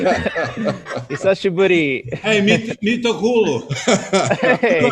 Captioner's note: laughing; speaking Japanese and Finnish; laughing